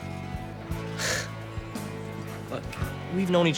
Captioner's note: laughs